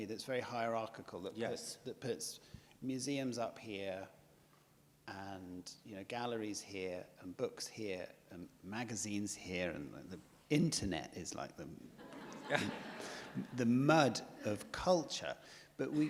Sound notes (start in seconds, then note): 12.0 audience laughs